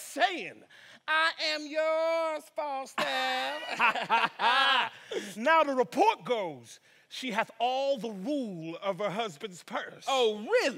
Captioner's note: laughs